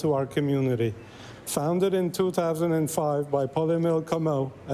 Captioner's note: speaking French